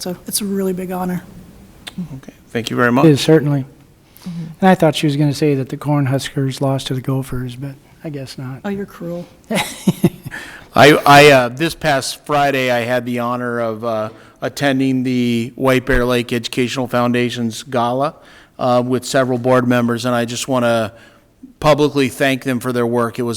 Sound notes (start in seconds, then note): 9.5 laughing